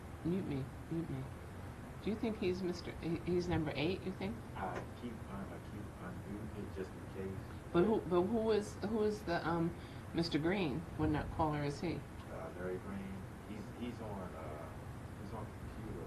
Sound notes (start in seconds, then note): 4.7 faintly speaking